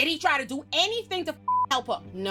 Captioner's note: beep